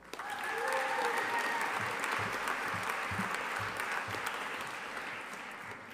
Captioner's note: audience applauding and cheering